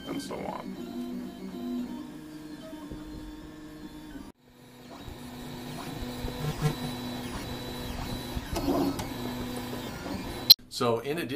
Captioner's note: printing sounds from 3D printer